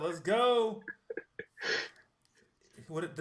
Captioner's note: laughter